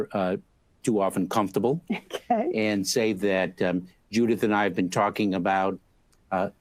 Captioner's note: laughs